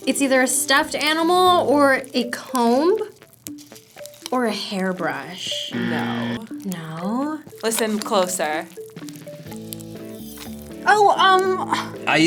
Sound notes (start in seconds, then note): 5.7 buzzer; 7.4 cereal crackling